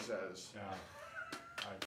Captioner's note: chuckling